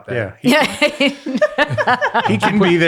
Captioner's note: all laugh